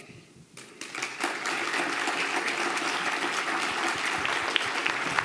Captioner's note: audience applauding